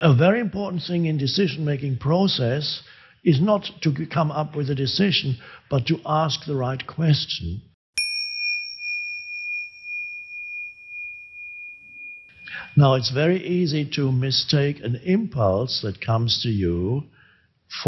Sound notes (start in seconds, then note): 8.0 logo dings